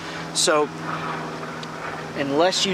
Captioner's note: engine roaring